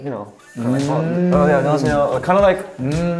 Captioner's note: greeting in Korean